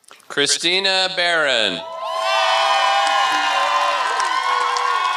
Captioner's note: applause